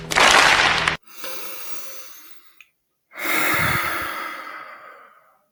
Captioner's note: breaths in and sighs disappointingly